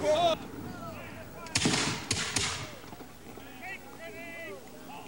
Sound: gun firing

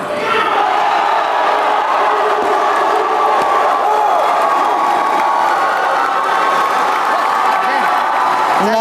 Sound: applause

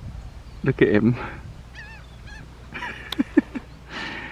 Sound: chuckling

